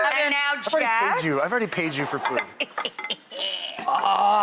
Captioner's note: laughs